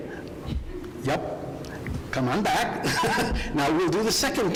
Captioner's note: laughs